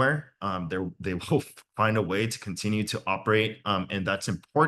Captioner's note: laughs